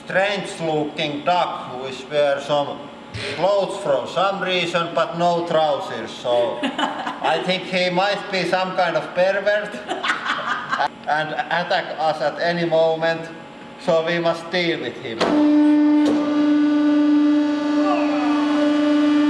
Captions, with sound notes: ...strange looking duck, who is wear some clothes for some reason, but no trousers so... (Laughter) I think he might be some kind of pervert...! (Laughter) ...and attack us at any moment. So we must deal with him! (Mechanical whirring) "Ooouuuugh"